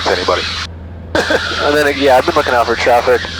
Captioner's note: laughing